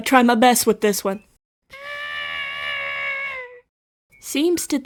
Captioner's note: most generic elephant sound anyone can fathom